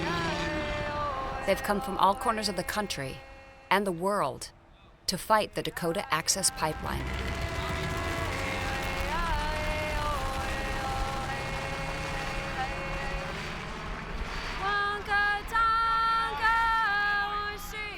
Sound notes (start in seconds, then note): 6.7 helicopter buzzing; 14.6 protestor singing continues